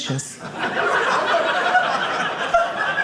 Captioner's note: audience laughing